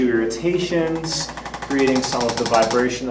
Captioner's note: ArthroStim rattles